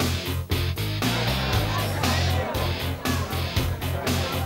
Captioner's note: upbeat rock music; people chattering